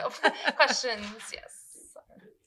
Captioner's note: laughs